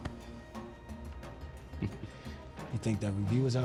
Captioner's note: chuckles